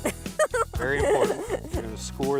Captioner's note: laughs